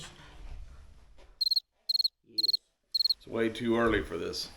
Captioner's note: crickets chirping